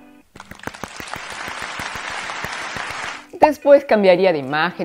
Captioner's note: claps